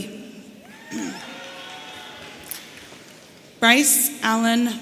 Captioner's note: audience cheering